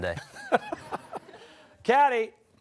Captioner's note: laughter